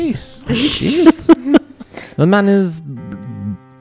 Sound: laugh

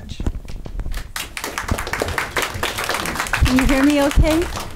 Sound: clapping

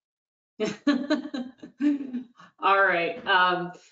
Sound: laughs

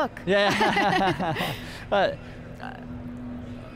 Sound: laughter

